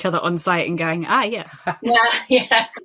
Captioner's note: laughing